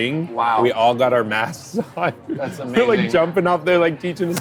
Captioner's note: laughing